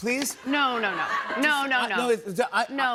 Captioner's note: laughter